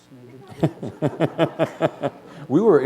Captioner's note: laughter